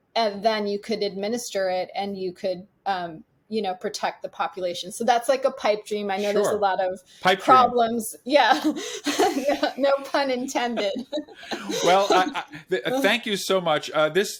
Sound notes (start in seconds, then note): 8.6 chuckles